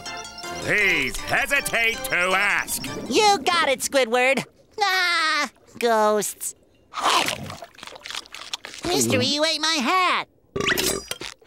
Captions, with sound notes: please hesitate to ask. You got it, Squidward. [laughing] Ghosts. Mister, you ate my hat. [burping]